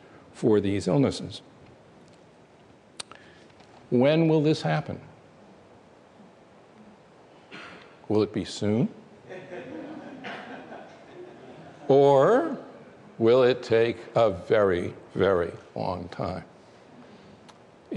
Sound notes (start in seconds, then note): 9.2 laughter